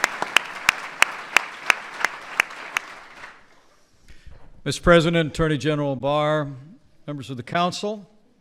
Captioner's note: applause